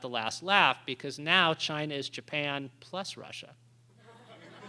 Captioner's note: laughter